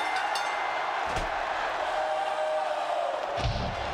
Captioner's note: bell rings; body thuds